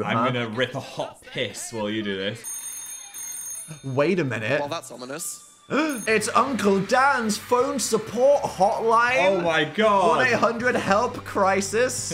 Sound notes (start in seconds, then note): 2.4 phone ringing; 5.7 gasps